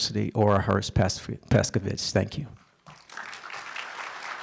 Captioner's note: applause